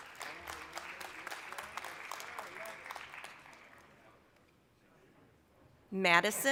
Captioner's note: applause